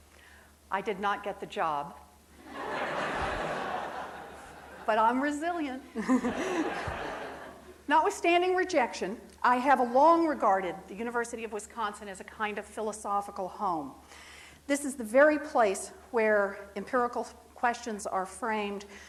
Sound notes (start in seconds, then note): 2.4 audience laughs; 5.9 laughing